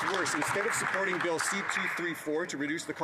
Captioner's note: some Applause